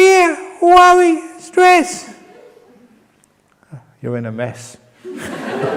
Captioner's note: laughter